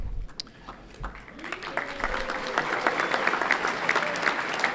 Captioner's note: everyone clapping